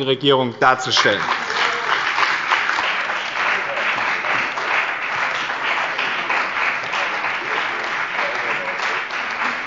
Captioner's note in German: Beifall bei dem BÜNDNIS 90/DIE GRÜNEN und der CDU